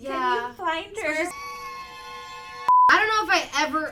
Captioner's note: crying